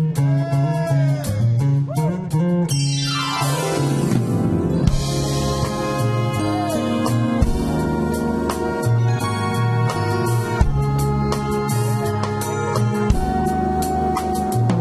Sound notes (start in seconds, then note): 1.9 man Cheers; 4.9 romantic jazz music continues